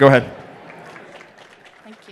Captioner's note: applause